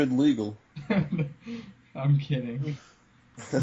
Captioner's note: laughing